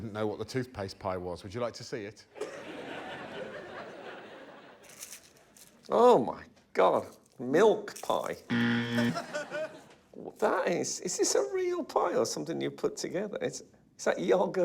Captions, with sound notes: Frank still didn't know what the toothpaste pie was. Would you like to see it? [laughter] Oh my God! Milk pie. [wrong buzzer sound] Well that is, is this a real pie or something you've put together?